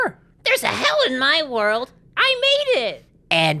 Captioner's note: Timmy voice; nasally attempt at Spongebob voice